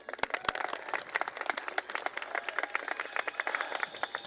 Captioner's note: applause